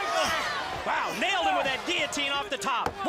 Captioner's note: crowd cheering